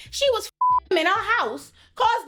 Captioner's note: beep